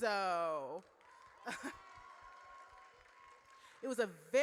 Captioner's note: audience cheers